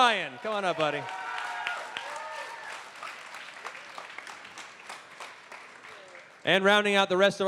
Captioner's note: cheering